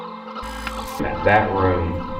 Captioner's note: static fizzing